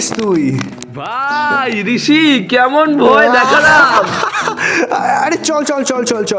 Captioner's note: laughs